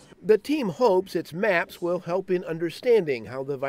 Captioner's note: voiceover